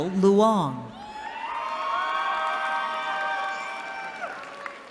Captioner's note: cheering